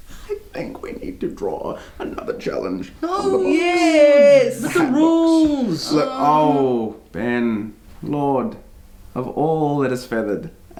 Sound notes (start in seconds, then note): 0.3 strained; 6.2 hmm-ing